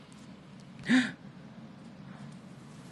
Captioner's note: gasp